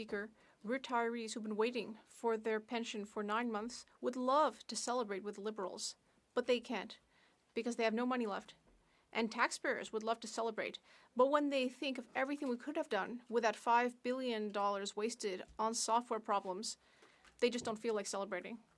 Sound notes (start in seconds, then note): 5.1 speaking French